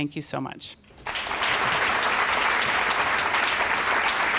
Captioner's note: applause